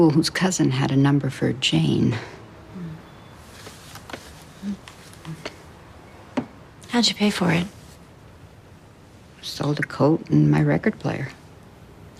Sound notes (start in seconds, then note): none